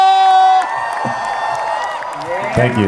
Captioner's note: crowd applauding